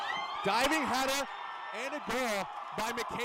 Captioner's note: crowd screaming